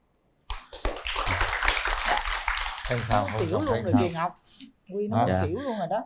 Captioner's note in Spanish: Aplaudir